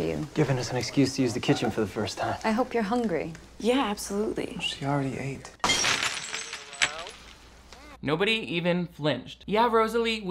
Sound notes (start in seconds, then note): 5.6 glass exploding